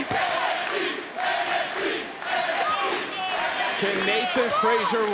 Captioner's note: crowd chants